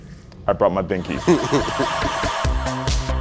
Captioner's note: chuckling; upbeat music